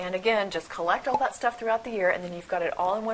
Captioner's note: pop